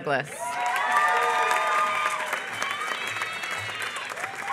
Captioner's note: applause